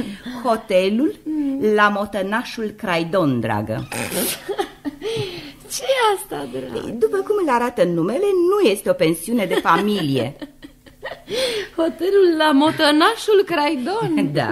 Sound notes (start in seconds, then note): 4.2 bursts into laughter